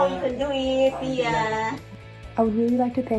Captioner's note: speaking in foreign language